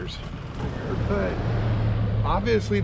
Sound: boat engine running

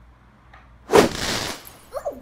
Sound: swoosh!

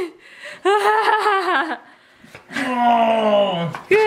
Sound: laughing

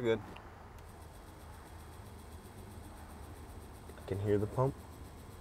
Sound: pump humming

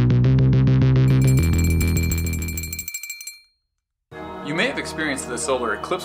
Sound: bell ringing

